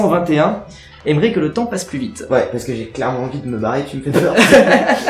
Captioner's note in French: Rires